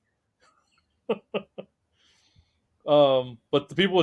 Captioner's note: laughing